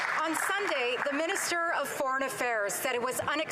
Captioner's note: some Applause